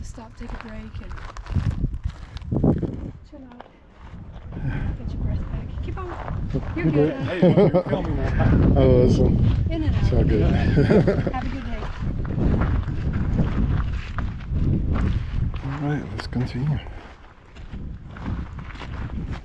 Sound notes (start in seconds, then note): 10.5 laughter